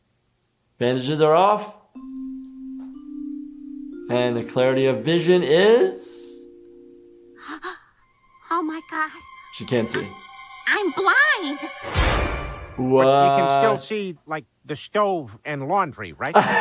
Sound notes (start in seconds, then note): 7.4 gasping; 11.6 dramatic music; 16.3 laughing